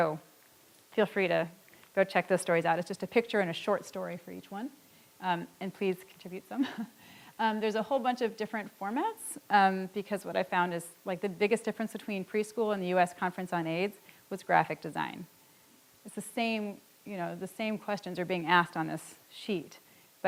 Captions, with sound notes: So feel free to go check those stories out. It's just a picture and a short story for each one. And please contribute some. (chuckles) There's a whole bunch of different formats because what I've found is, like, the biggest difference between preschool and the US Conference on AIDS was graphic design. It's the same questions are being asked on this sheet.